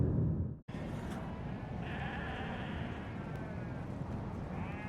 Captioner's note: lambs sounds